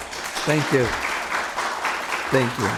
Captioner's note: applause